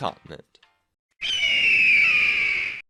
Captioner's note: eagle Screech